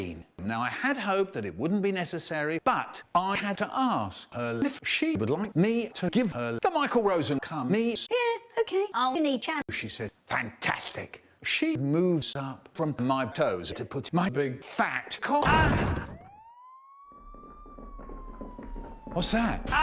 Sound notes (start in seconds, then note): 15.5 police sirens